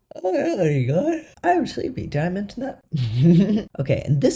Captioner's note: laugh